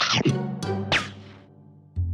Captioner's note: chomp